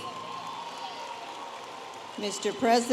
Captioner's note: audience applauding and cheering